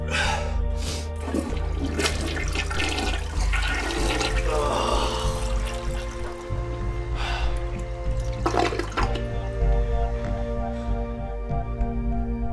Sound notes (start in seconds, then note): 0.0 Drew sighs; 1.2 toilet flushing; 4.3 Drew groans; 7.2 sighing over dramatic instrumental rock music